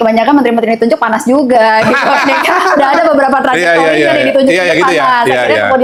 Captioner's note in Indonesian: tertawa